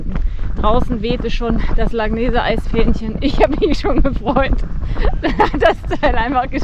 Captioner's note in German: gelächter